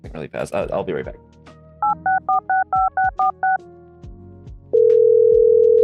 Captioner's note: phone beeping